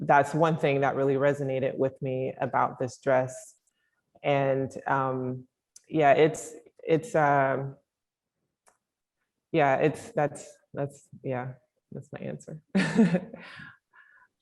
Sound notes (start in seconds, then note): 12.8 chuckling